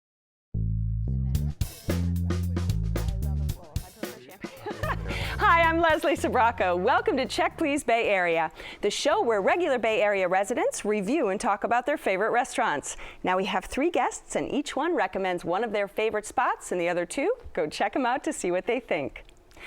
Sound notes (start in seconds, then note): 4.2 chuckles